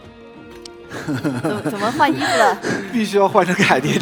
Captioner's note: laughs